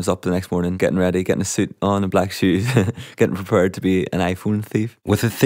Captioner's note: laughs